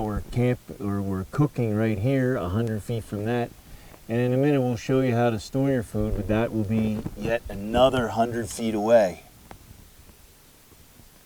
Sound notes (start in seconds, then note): none